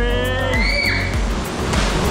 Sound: screams

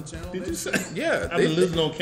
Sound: laugh

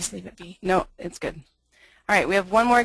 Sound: voiceover

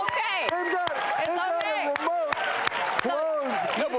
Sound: clapping

